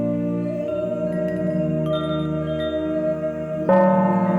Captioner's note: ethereal music; wind chimes ringing; gong rings